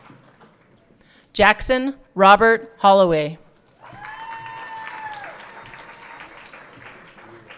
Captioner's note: everyone cheering